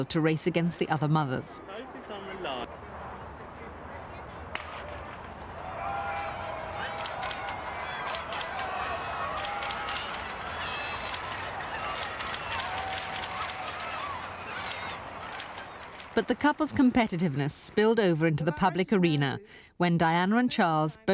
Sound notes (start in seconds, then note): 7.2 cameras clicking; 7.2 cheering